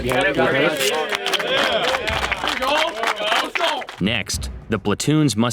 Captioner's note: cadets applaud